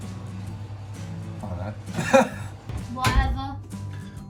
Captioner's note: laughs